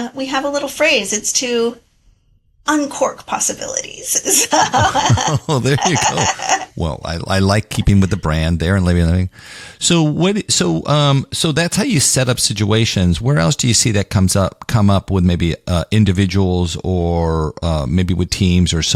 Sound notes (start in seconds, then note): 4.2 laugh